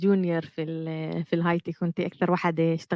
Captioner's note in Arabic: لغة أجنبية